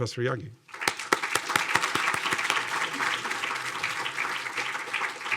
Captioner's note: audience applauding